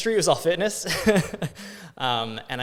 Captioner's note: laughs